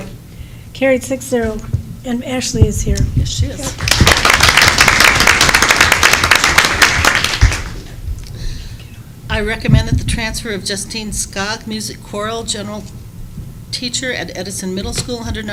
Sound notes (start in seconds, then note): 3.7 applause